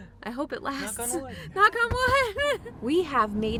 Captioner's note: knock knock